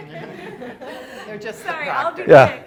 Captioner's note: students laughing; students commenting